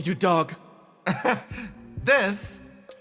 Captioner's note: laugh